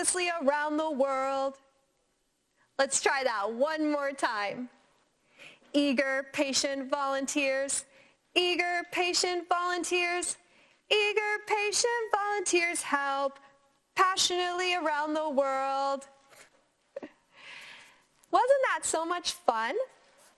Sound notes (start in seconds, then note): 16.9 laughs